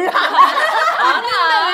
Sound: laughing

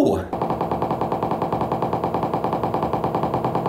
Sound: thumping

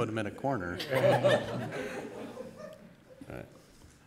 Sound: laughter

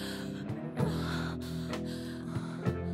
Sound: heavy Breathing

